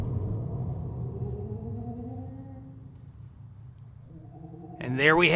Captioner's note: thunder and ghost sounds